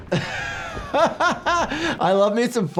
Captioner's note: laughs